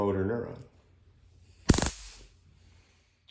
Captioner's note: taser crackles